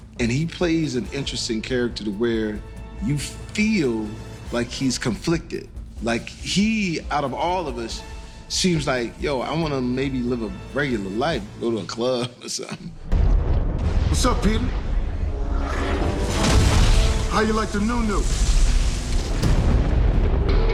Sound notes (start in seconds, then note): 13.0 thunder rumbling